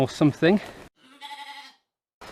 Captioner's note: rogue sheep bleat